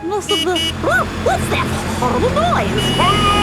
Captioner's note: honking